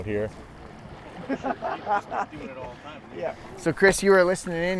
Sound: laughing and chattering

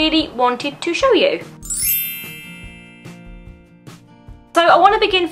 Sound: bell transition sound effect

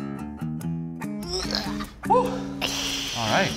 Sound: grunts

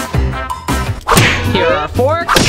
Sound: whoosh; bam

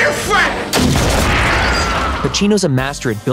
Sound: gun firing

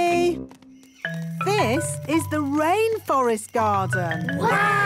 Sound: rainforest sounds

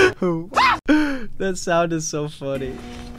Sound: screams

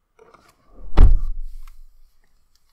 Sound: car door closes

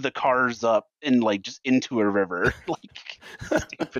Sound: quiet laughter

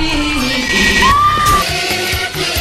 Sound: woman screaming

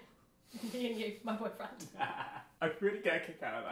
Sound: both laugh

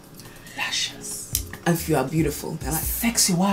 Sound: whispers

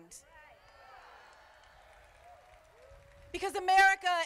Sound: crowd applauding

